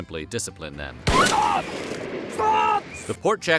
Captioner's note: gun shot